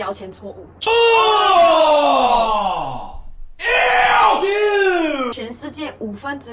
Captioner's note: disgusted scream intensifies